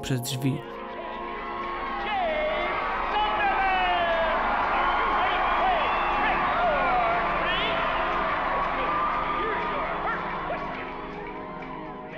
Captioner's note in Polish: Aplauz